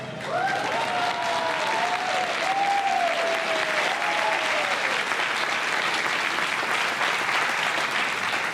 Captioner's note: applause